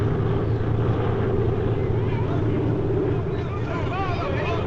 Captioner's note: shouting